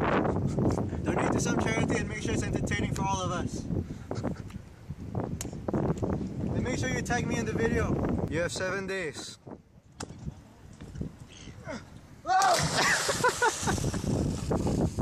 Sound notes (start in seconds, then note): 12.2 scream; 12.7 laughs